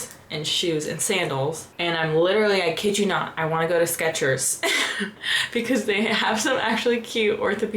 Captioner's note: laughter